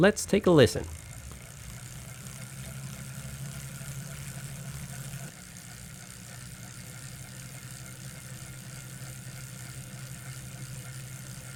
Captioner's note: drivetrain noises